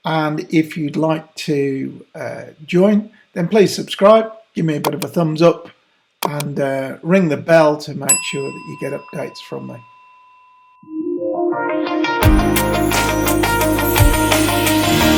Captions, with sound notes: And if you'd like to join, then please subscribe. Give me a bit of a thumbs up and ring the bell to make sure (bell rings) that you get updates from me. (upbeat music)